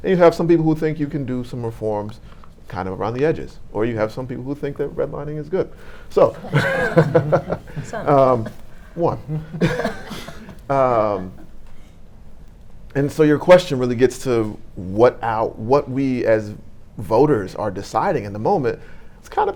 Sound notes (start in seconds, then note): 6.2 panel and audience laughing